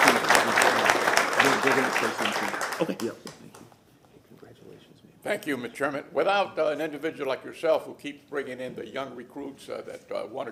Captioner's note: applause